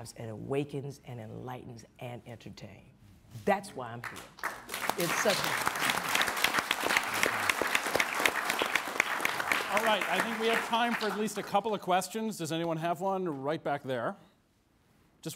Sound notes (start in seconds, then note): 5.1 audience applauds